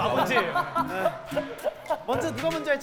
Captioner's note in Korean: 하하하하